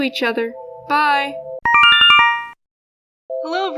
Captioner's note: Yume Nikki instructions sound